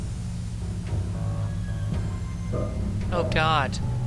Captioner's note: thumping noises